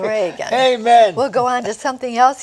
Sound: laughter

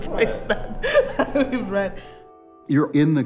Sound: laughs

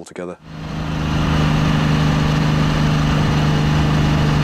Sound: bike engine rumbling

